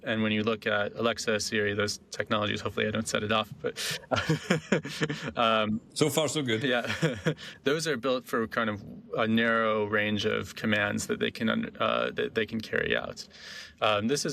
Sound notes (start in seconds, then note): 3.8 laughing; 6.7 laughing